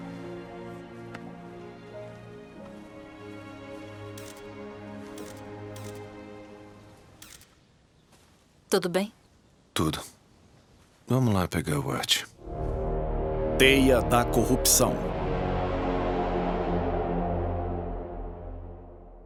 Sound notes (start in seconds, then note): 5.1 camera shutter click